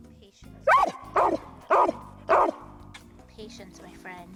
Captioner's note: dog barks